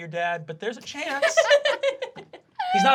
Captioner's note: laughing